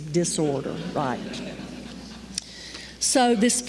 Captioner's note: laughter